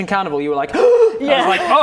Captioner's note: gasp